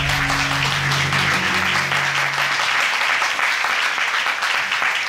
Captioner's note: audience applauding